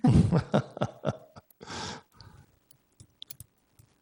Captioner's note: laughs